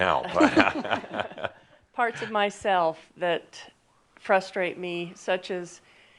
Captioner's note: she chuckles; Adamus chuckles